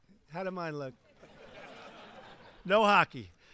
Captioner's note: laughter